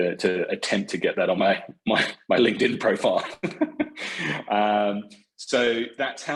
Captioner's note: laughs